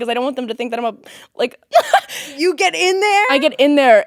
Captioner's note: laughing